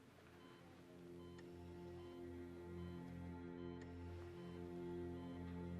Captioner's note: monitor beeping